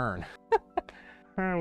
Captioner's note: chuckles